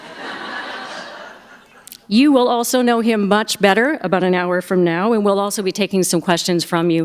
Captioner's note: laughter